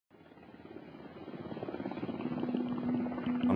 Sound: propellers whirring

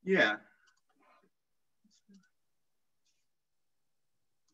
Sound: clicking

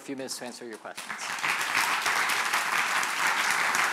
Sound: applause

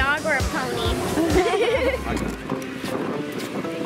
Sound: laughing

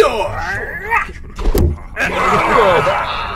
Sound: knife whistle, thunk; Klingon cheers, laughter

